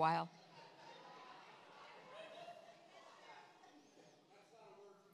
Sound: congregation laughs

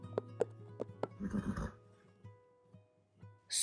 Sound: whinny

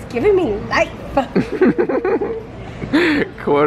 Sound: laughs

